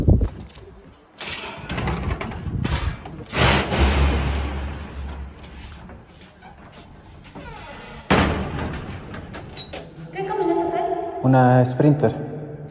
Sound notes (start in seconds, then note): 3.3 loud door clanging; 10.0 lady in Spanish